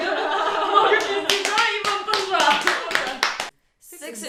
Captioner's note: clapping in Excitment